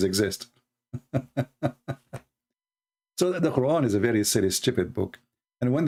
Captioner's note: Ketawa